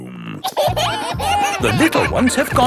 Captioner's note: kids giggling